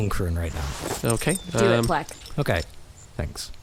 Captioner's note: coins clink together as they fall from Pleck’s hand into Maginak’s